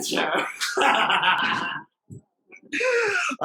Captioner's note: laughter